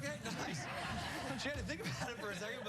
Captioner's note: laughter